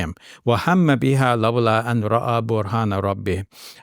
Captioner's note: speaks Arabic